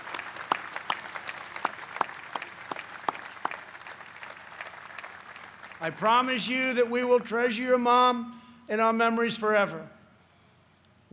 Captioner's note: applause